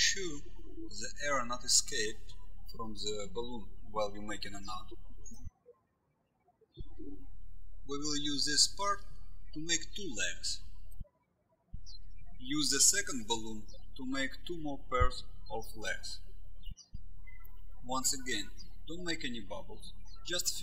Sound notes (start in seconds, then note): 6.5 birds chirping; 11.1 birds chirping